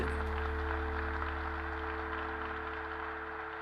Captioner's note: applause